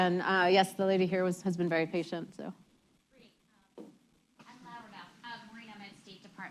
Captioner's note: off mic